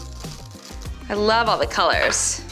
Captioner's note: sprinkles dropping